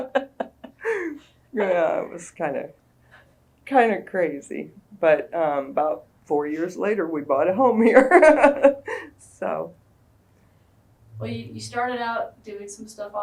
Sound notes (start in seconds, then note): 0.0 laughter; 8.9 laughs